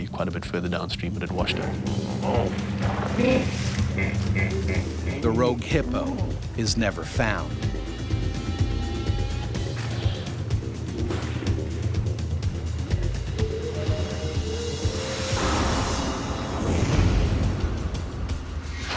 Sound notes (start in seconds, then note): 6.0 voiceover